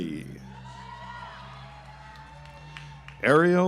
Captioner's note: audience applauds